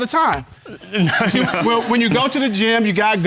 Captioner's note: chuckles